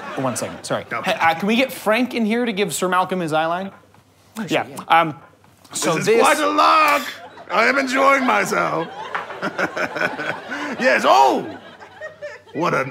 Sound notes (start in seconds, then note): 9.7 chuckling